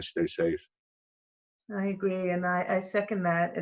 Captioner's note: loughs